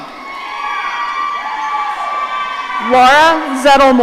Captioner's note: audience cheering